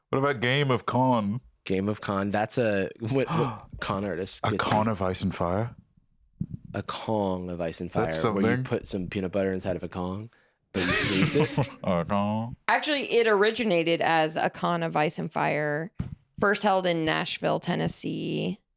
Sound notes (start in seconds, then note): 3.2 gasps